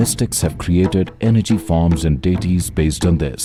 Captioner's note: laughs